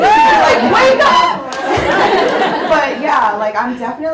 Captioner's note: audience laughs